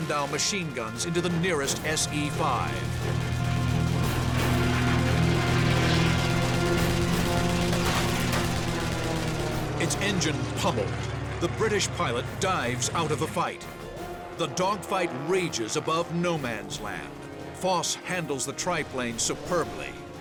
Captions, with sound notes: machine guns into the nearest S.E.5. [weapons firing] Its engine pummeled, the British pilot dives out of a fight. The dogfight rages above no man's land. Voss handles the triplane superbly,